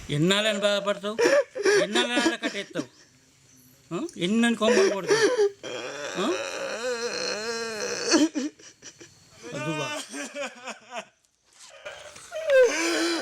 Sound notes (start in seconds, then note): 6.4 Rajiga crying in despair